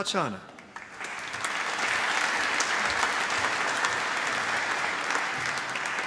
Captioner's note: applause